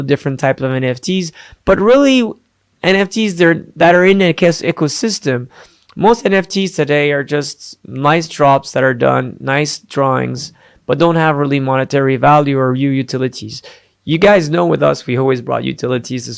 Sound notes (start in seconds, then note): none